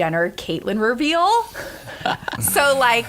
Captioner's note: laughter